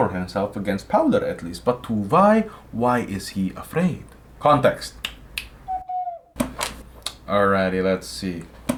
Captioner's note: snap, snap